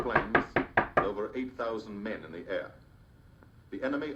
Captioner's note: Trixie knocking